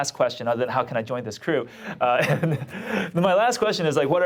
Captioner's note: laughs